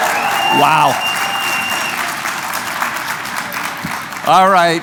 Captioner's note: cheering